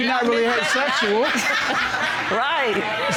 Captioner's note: audience laughing